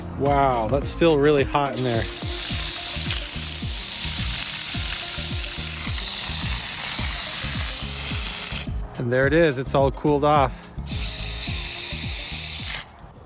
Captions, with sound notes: Wow, that's still really hot in there. (water spraying) (upbeat music) And there it is, it's all cooled off.